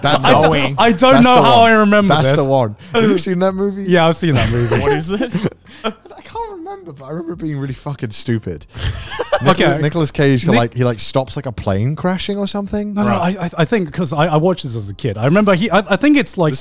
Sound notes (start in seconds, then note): 8.8 everyone laughs